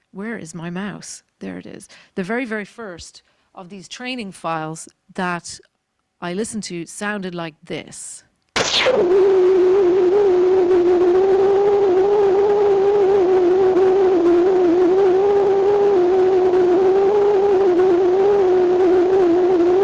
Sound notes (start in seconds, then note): 8.6 computer screeching